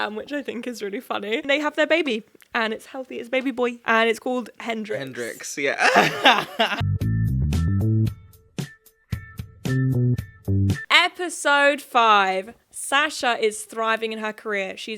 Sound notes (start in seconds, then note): 5.7 laughing; 5.9 upbeat music